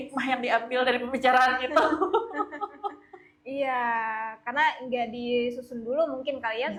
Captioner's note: laughs